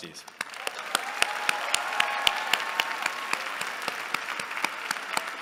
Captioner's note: applause